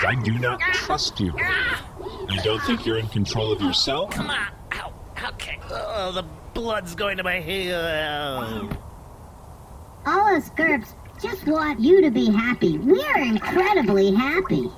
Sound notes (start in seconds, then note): 1.2 Nermut yelps, protests; 8.6 Nermut trails off dizzily and there is a quiet thump